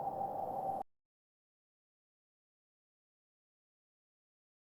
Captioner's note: none